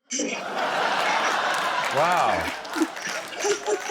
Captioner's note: laughter, applause